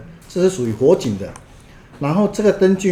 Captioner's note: fire alarm